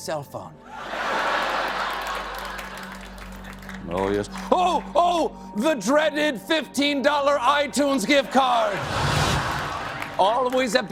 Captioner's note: laughter